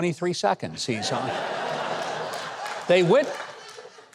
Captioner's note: audience laughs and claps